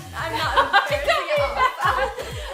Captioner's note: laughs